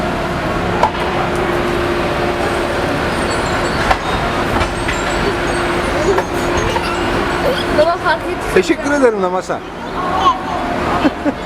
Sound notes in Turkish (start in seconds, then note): 1.9 gülücük sesleri